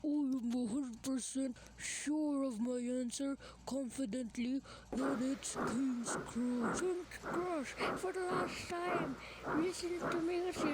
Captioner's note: gordon and duck arguing